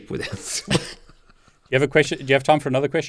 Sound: both laughs softly

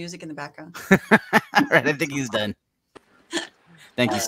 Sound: laughing

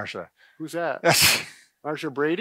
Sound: laughs

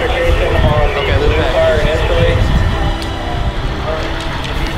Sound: radio traffic

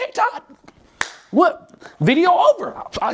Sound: clapping

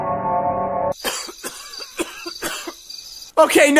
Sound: cough, cough

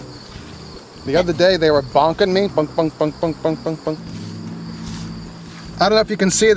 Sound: laughs; bonking

